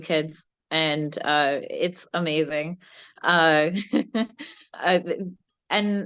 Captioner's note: laughs